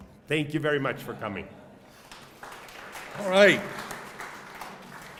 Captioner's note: applause